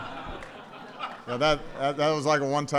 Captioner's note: laughter